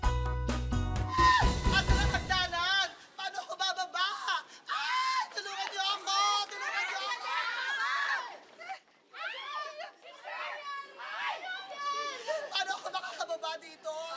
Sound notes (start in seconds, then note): 1.1 Mau screams; 6.5 screams; 6.9 nuns shouting